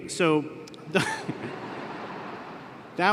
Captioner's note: laughter